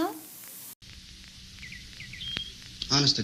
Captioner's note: birds chirping